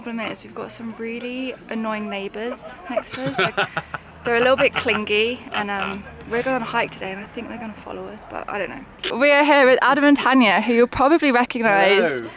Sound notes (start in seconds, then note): 1.1 laughing